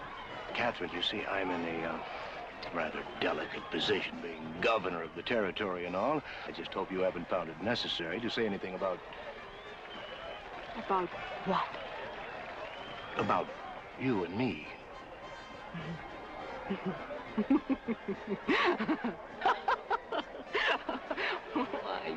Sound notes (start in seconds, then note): 17.3 chuckling; 19.3 laughing